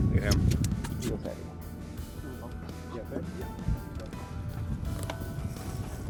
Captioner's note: crew members speaking softly